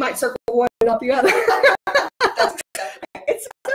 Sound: laughing

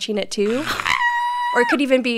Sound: screaming

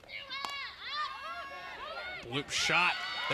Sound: ball hitting bat

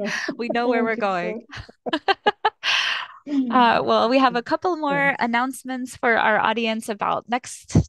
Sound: laughter

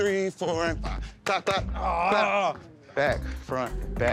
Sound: groans

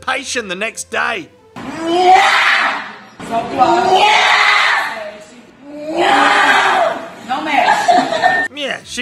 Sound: loud shouting under pressure

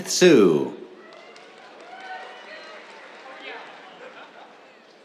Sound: cheers, applause

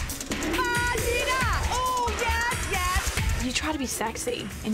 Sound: imitates music

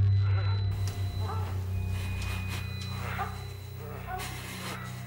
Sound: moans

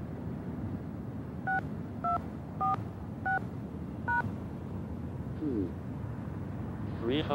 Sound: touch tone

